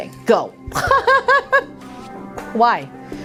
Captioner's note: Faith laughing